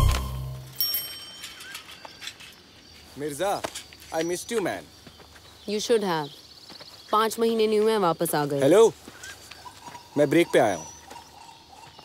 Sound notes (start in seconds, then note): 0.6 Bicycle bell ringing; 0.6 Birds chirping